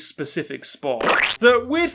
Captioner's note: splat noise